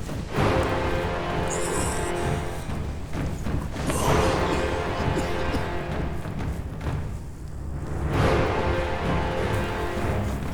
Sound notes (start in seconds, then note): 0.2 dramatic orchestral music; 3.8 David coughing; 6.1 dramatic orchestral music